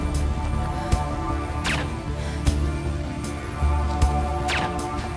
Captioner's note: guns firing